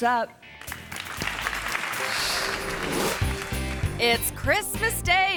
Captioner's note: audience applauds